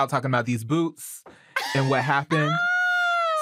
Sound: laughs, shrieks

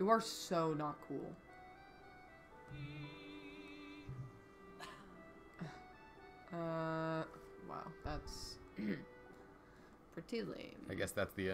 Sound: ahem

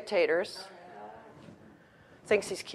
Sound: audience murmurs

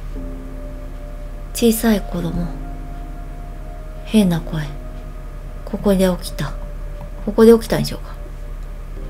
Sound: strange voice

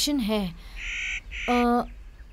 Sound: birs chirping

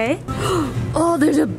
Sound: gasps

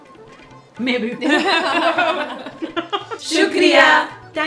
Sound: laughter

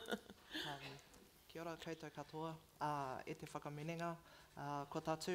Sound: foreign language

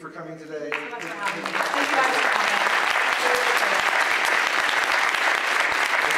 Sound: applause

